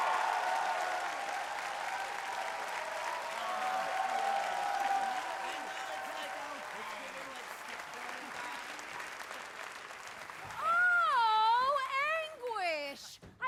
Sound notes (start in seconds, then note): 5.3 excited chatter